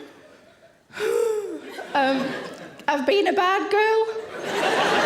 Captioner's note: anxiously exhales; audience laughing